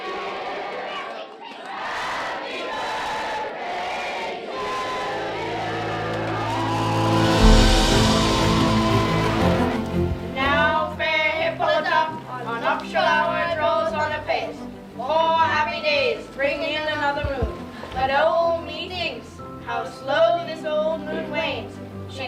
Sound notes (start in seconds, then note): 4.5 everyone cheering; 6.7 triumphant music